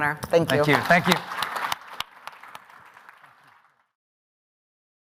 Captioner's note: audience applause